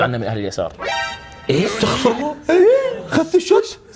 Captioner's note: gasps